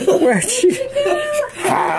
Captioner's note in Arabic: تضحك